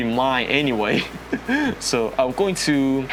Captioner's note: nervous laugh